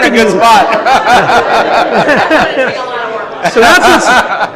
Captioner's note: audience laughs